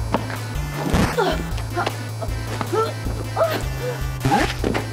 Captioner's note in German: Schlaggeräusch, die Frau stöhnt